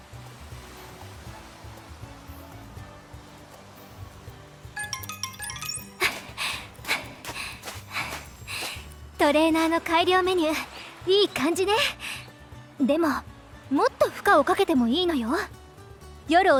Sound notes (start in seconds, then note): 6.0 huff